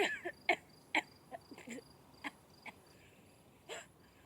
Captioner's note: Suzanne coughing